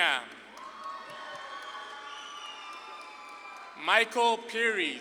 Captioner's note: audience claps and cheers